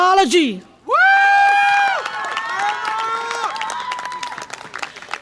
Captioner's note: audience applause and cheer